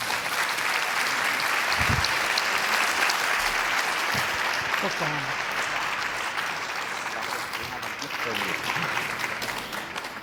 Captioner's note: applause